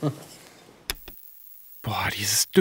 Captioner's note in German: Schmunzeln; Klicken